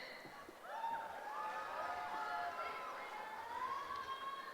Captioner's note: cheering